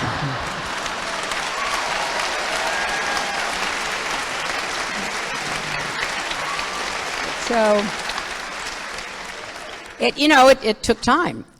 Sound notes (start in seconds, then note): 0.0 laughter; 8.4 applause